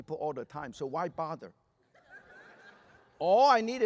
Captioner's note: laughter